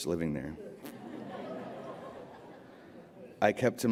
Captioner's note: laughter